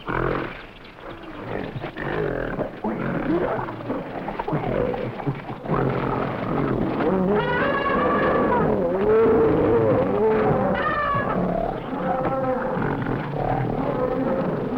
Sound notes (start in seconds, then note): 0.2 gorilla grunting; 7.3 elephant trumpeting; 9.5 gorillas grunting; 9.5 gorillas rustling